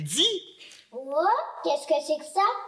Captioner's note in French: voix d'enfant